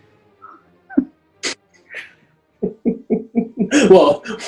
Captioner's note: chuckling